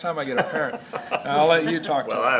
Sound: laughter

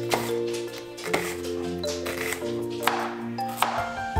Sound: knife slashing

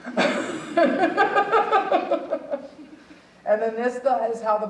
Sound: audience chuckling; chuckling

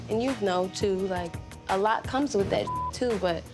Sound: beep

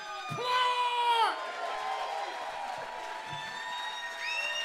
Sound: cheering

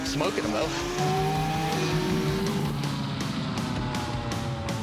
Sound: engines revving

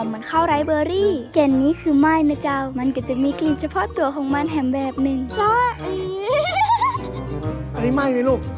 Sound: giggling

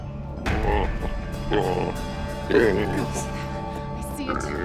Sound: creature growling

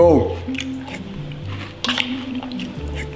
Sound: slurps; spoon scraping

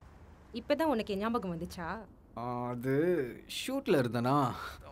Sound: none

